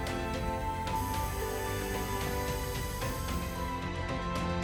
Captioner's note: tool whizzing